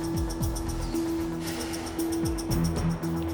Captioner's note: sighs